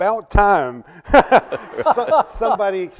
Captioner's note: panelists laughing